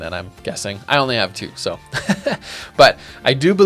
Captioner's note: laughs